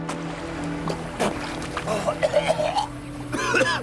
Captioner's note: Cain sputtering